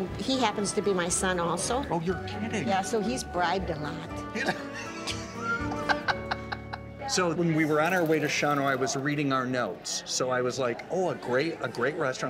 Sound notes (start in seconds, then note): 4.4 laughing